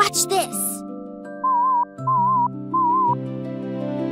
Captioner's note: sound beeps